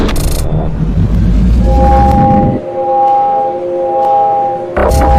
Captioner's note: machine operates